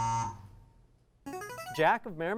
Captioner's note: ringing